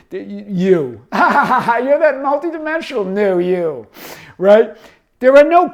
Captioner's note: laughs